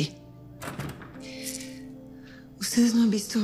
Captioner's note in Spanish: Sonido al cerrar la puerta